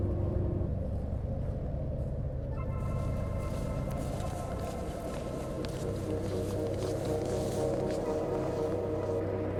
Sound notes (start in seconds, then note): 0.0 ominous electronic music; 0.0 wind blowing; 2.8 footsteps rustling; 3.5 ominous electronic music